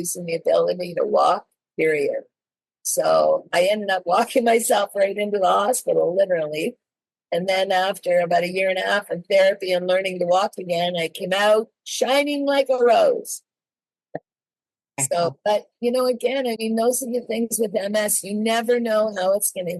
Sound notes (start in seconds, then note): 14.1 laughs